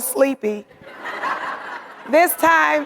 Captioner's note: audience laughing